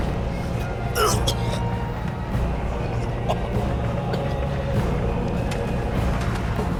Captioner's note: coughing